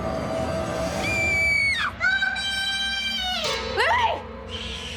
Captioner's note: Lily screams